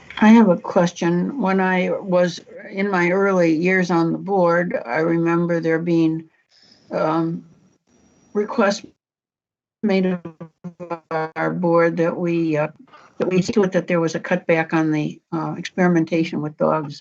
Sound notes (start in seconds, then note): 10.9 audio breaks up